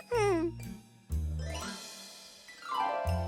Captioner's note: laughing